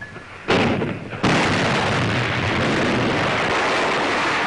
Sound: heavy gun fire

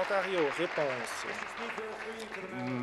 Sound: applause

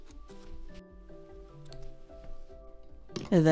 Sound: the softest of snips

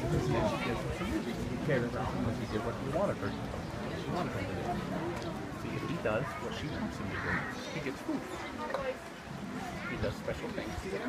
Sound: various people in crowd talking

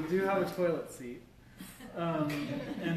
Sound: laughter

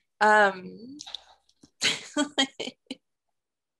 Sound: laughs

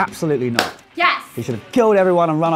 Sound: claps

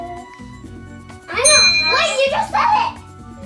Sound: ding

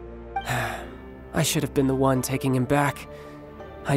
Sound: sigh

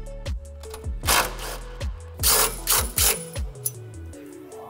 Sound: driver whirring

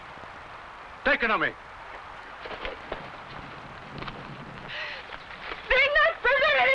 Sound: shouting in foreign language

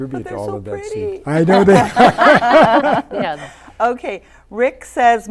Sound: all laughing

